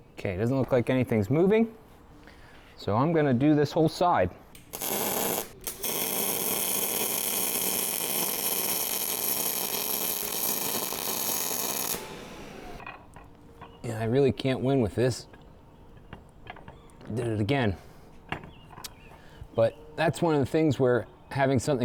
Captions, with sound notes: Okay, it doesn't look like anything's moving. So I'm going to do this whole side. (drilling) Yeah, I really can't win with this. Did it again. But that's one of the things where having something